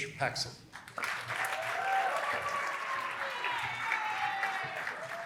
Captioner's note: applause